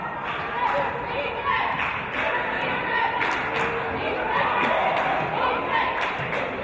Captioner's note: audience chanting "Defense!"